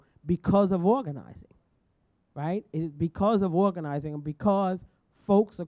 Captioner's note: none